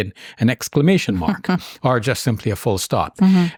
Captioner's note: chuckling